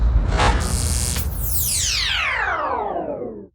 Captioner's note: electric sound effects